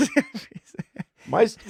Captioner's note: laughing